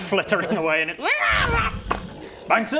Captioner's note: cute derpy dragon noise